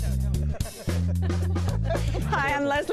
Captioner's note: laughter